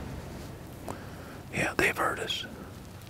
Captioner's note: whispering